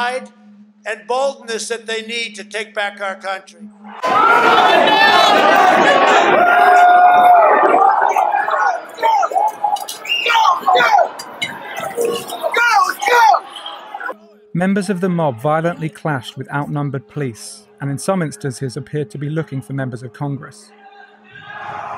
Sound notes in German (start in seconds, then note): 4.0 Lautes Geschrei; 20.8 Laute Rufe